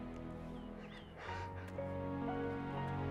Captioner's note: sobbing